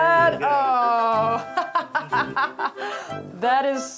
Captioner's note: laughs